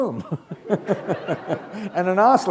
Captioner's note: laughter